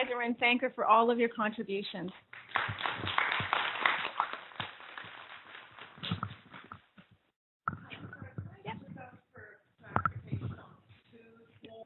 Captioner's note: people clapping